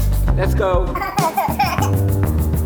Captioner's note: baby giggles